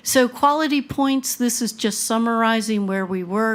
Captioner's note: none